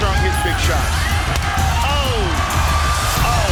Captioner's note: kick lands with a thud